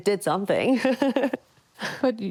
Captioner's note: laughs